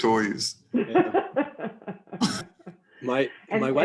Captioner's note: laughing